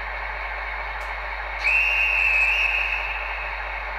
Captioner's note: whistle